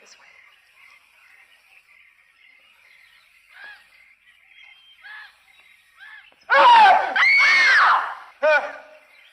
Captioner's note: screaming